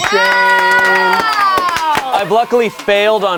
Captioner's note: all cheering